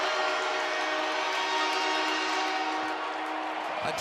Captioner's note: cheering; air horn